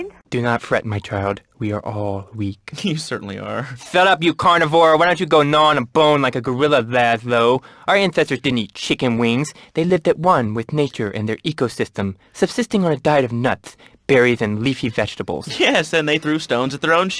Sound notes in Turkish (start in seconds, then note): 0.5 peltek bir sesle; 3.5 gülüyor; 3.8 peltek bir sesle